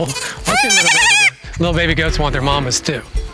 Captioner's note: kid fussing